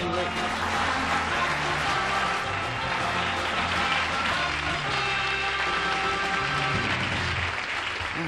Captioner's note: applause